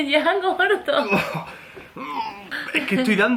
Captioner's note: laughs